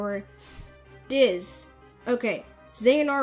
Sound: inhales

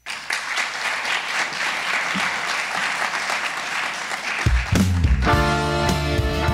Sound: audience applauds; pensive rock music

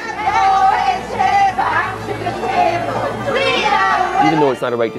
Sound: people chanting

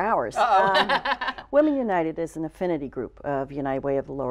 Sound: laughter

